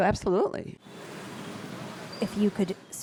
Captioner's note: busy street sounds